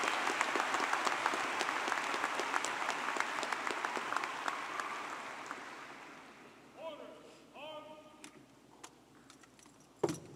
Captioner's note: cheers and applause